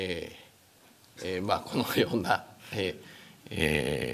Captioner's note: speaking japanese